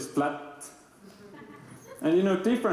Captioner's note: laughter